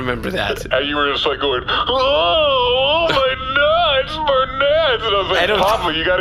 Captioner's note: imitating Pleck